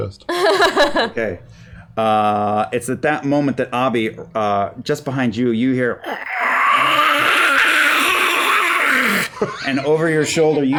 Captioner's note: growling